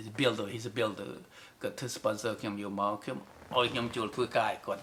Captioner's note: in Khmer